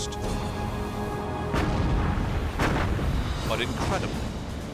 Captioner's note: explosions